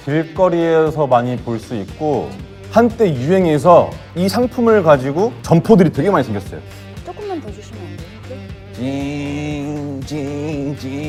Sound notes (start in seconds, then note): 6.7 sniffle